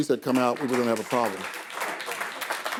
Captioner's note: audience applause